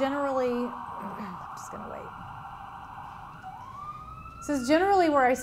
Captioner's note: siren heard in background